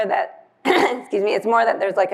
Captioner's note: coughs